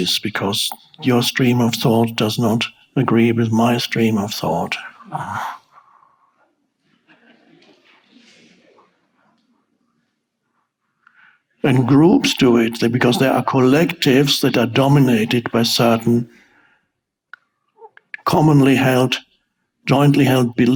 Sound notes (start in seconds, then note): 5.0 growls; 6.8 audience laughs